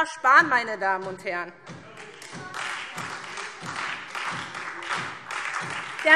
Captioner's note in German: Beifall SPD und Freie Demokraten